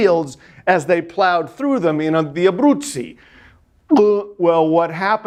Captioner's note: speaking in foreign language